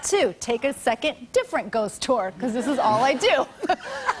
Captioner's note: laughter